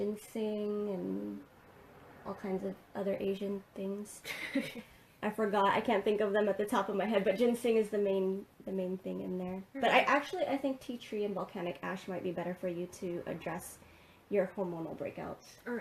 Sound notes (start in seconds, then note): 4.2 laughs